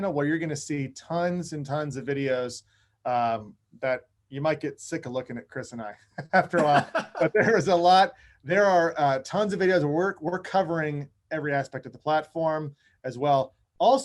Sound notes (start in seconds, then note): 6.1 laughing together